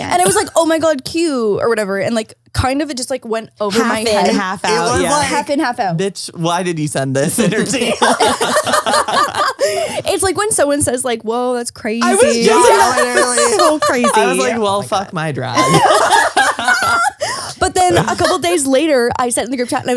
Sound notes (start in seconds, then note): 7.6 all laugh; 16.1 laughs